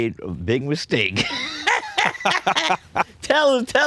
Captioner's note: both laughing